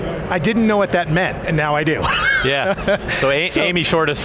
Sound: laughs

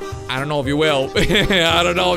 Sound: laughs

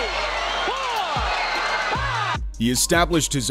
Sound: crowd cheering

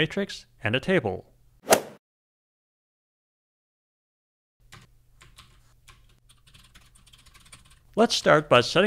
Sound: golf swing sound effect

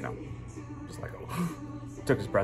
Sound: gasp

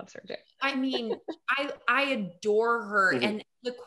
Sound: chuckling

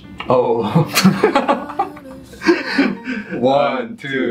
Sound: laughing

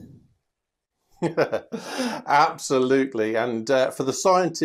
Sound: laughs

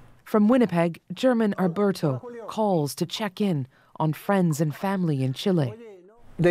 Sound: phone ringing; speaking Alternate Language

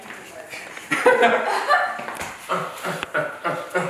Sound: laughter

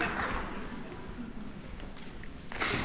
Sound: applause

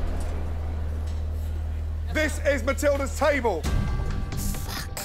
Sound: shouting

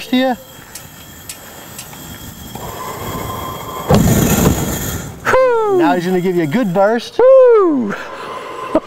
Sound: flame blast

